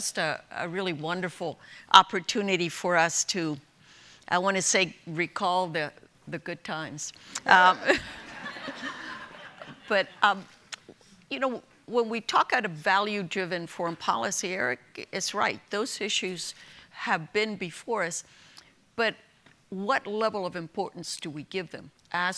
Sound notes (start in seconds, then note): 7.8 audience laughing